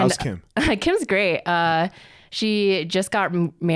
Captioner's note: laughs